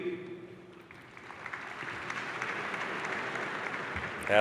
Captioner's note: applause